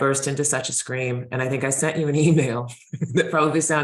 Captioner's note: chuckling